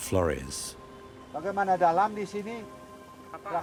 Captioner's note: speaking Austronesian language